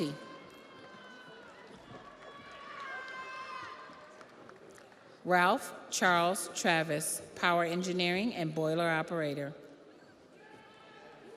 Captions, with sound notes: Leonardo Escodo, Electricity. (audience applauds) (audience cheers) Ralph Charles Travis, Power Engineering and Boiler Operator.